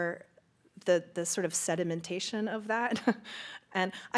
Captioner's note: chuckles